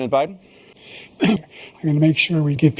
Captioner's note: cough